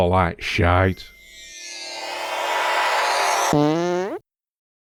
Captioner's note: high pitched whiny wibbles; fart